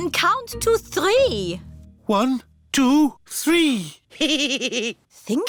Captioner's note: giggles